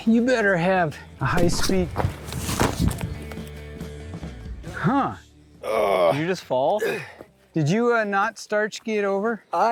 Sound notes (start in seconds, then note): 5.6 groaning